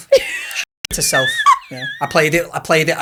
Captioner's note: audio blurs